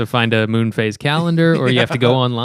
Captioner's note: laughter